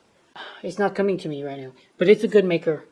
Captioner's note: sighs